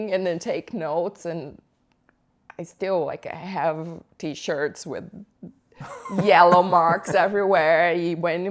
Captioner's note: laughter